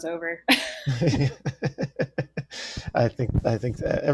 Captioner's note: laughter